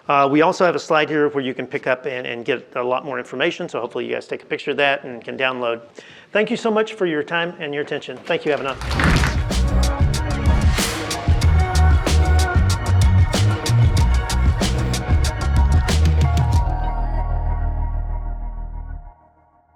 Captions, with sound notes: We also have a slide here where you can pick up and get a lot more information. So hopefully you guys take a picture of that and you can download. Thank you so much for your time and your attention. Thank you, Avinav. (audience clapping)